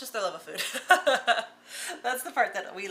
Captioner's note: laughing